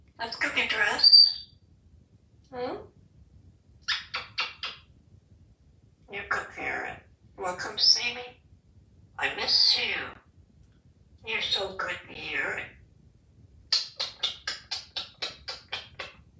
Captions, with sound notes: Let's go get dressed. Hmmm? [Kisses] You're good parrot. Wanna come see me? I miss you. You're so good parrot. [Lip smacking sounds]